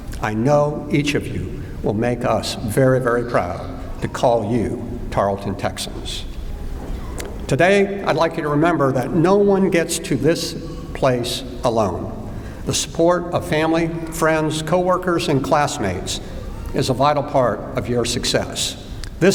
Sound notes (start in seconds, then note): none